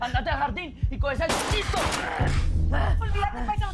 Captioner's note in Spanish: Disparos